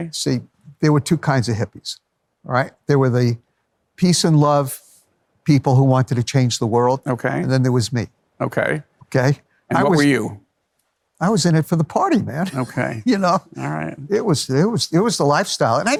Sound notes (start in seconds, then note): 12.4 laughs